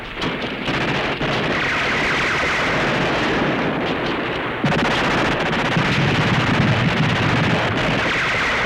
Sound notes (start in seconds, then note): 0.1 gunfire